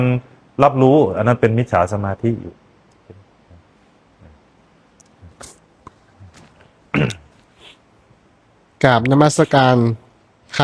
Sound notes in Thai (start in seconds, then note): 7.5 เสียงสูดหายใจ